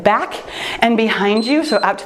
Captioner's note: timer beeps